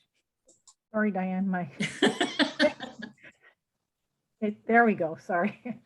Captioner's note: laughs